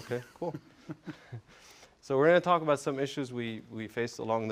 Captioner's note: laugh